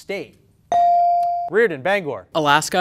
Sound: ding

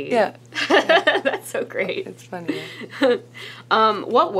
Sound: laughs

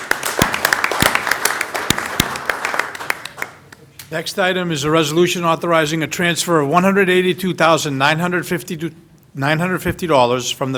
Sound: applause

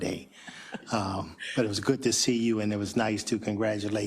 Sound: laugh

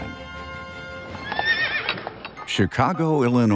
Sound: horse neighs

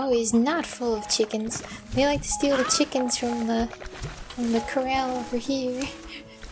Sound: giggling

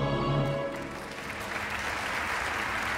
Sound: applause downstairs

